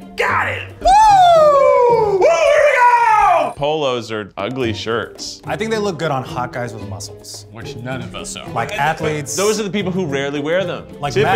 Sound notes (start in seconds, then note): 2.4 Keith screams